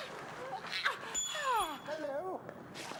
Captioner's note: ring clinking